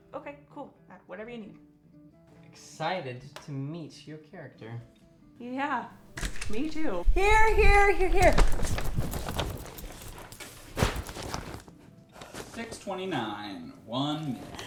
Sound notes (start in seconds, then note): 6.0 door opens